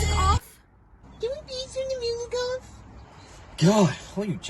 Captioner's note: mockingly